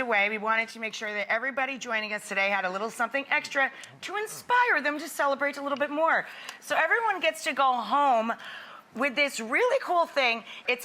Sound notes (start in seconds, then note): none